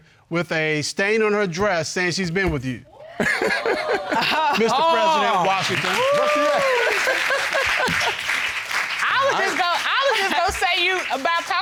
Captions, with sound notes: with a stain on her dress saying she's been with you? -[laughs] -[audience hooting] -Mr. President Washington. -That's right. -[laughs] -[audience applauds] I would just go-- I would just go say you about--